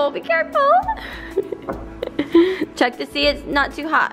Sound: laughs

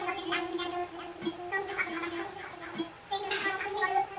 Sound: deli chattering

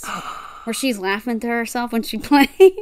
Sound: gasps

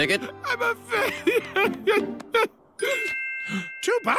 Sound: crying

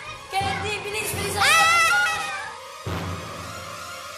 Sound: Candy screams

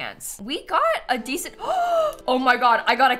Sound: gasps

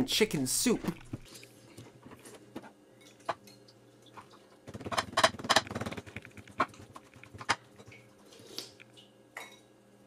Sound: normal eating chicken soup noises; frantic banana cutting noises

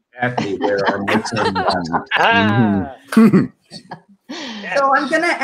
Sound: members laugh

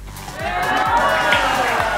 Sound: cheering

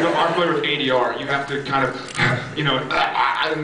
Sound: choking noise; heavy breath

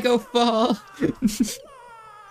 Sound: more giggles

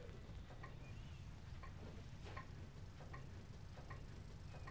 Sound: clock ticking

